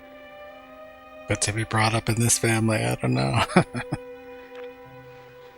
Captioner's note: laughing